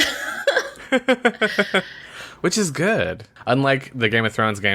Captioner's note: laughs